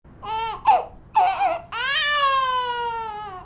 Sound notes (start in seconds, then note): 1.1 crying